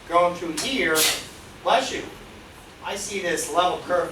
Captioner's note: student sneezes